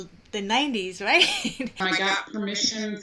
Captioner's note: chuckles